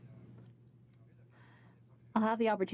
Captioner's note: speaking French